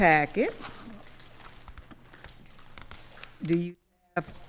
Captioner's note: papers rustling